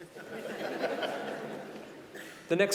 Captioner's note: audience laughing